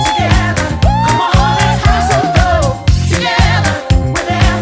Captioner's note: vocalizing